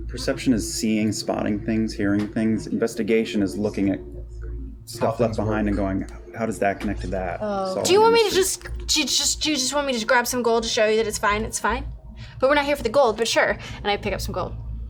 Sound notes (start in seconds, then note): none